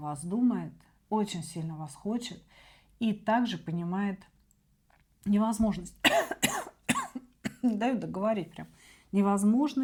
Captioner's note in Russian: кашель; откашливается